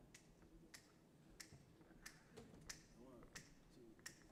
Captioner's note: fingers snapping to beat